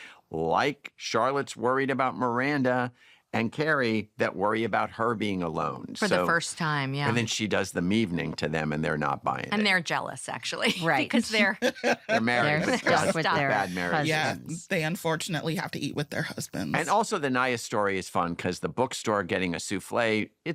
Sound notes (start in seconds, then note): 10.6 laughing; 11.2 chuckles